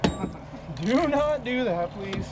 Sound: chuckling; thunk

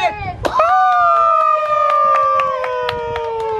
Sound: clapping

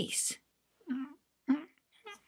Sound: critter mumbling

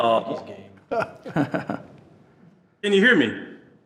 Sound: trustees chuckling

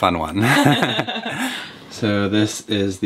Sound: laughing

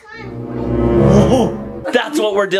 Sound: jump scare sound

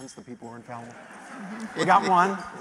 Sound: laughter

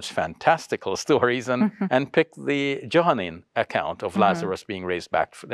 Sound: chuckles

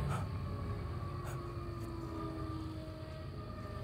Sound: scared breathing

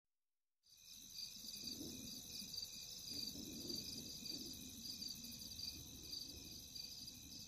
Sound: night sounds

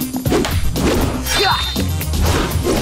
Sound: grunting

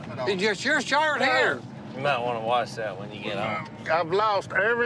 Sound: none

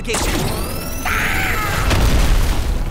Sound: yelps

